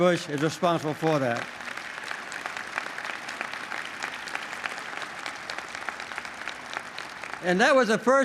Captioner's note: applause